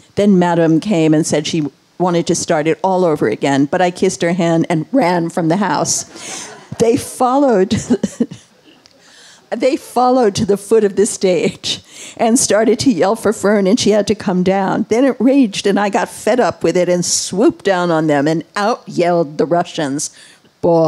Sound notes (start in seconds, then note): 6.0 all laughing